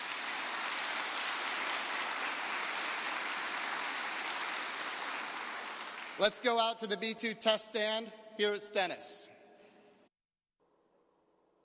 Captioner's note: applause